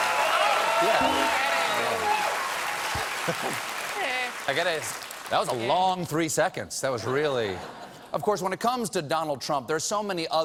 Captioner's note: cheers and applause